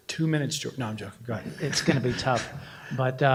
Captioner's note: laughter